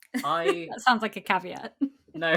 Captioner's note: laughing